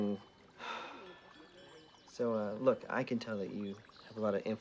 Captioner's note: sighs